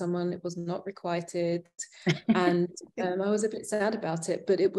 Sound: chuckling

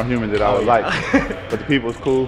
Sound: laughs

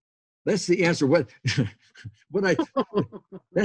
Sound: laughs

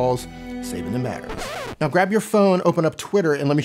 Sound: scratching record

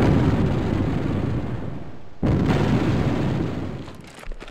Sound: explosions boom

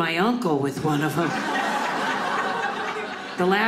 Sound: audience laughing

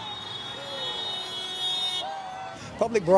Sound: car honks

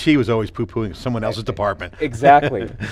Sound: laughing

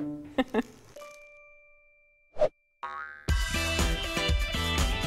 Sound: host chuckles

